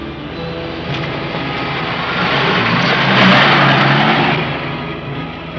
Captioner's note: vehicle whirring